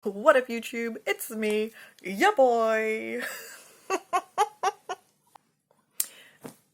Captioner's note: laughs